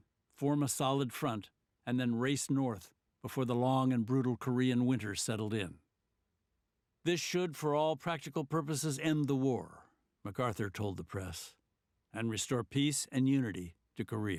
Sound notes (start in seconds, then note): none